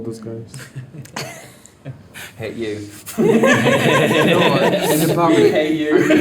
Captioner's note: all laughing